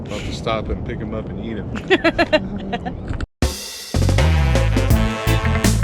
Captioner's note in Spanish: Riendo; Música alegre de reggae sonando